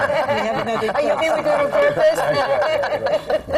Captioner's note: laughter